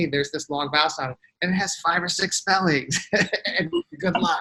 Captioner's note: laughs